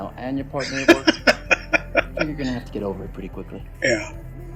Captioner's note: laughing